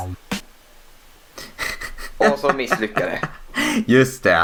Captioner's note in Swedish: Skrattar